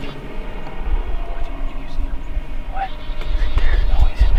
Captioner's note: speaking faintly